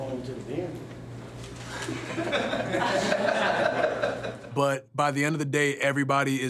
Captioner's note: laugh